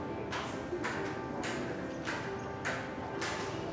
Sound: cane clacks rhythmically

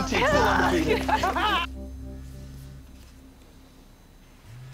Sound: laughter; cellphone buzzes

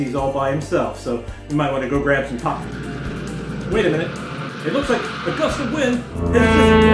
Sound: sound of wind

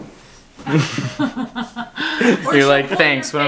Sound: laughing

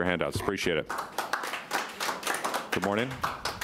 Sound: citizens applauding

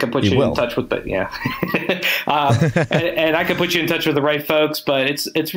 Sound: laughs

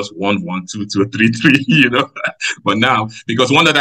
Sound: laughs

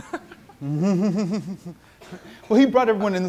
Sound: laughs; audience laughing

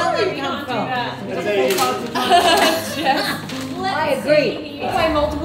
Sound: all laughing

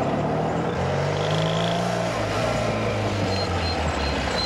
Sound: motorbike roaring

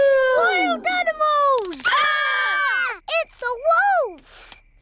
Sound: all screaming; howling

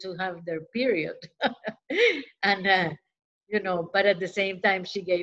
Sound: laughter

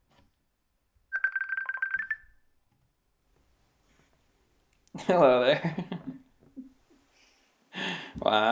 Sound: ringing

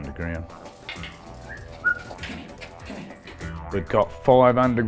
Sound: whistling

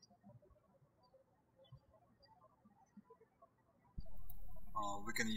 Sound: birds chirping

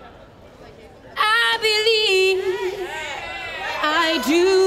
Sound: audience cheering

